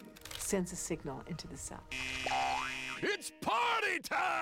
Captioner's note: buzzing